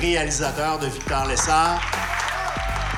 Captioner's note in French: acclamations